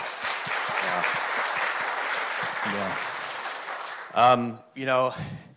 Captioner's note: audience applauding